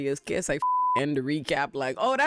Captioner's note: beep